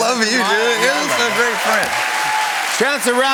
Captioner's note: cheers and applause